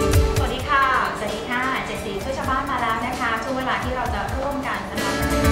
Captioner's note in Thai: เสียงผู้ประกาศข่าว